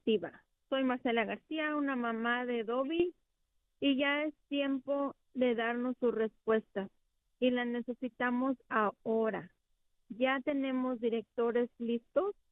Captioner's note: speaking spanish